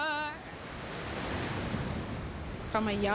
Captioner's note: waves crashing